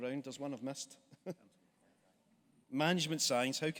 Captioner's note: chuckles